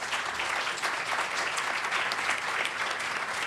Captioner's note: applause